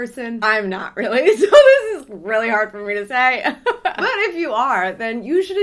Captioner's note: laughs